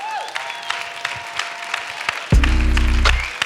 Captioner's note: applause